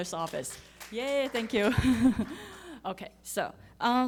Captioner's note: audience applauding